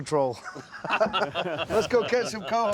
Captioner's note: laughter